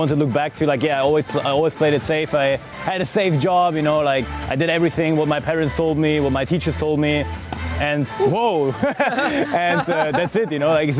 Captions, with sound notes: like, yeah, "I always played it safe. I had a safe job." you know, like, "I did everything, what my parents told me, what my teachers told me." and whoa, (laughs) and that's it, you know, like,